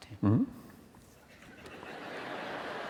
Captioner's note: laughter